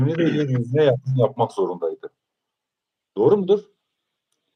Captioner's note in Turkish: boğazını temizler